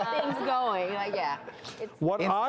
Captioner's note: audience laughs